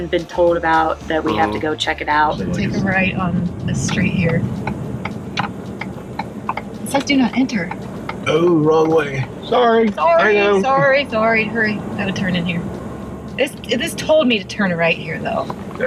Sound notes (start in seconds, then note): 4.9 turn signal clicking